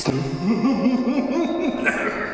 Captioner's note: very friendly normal laugh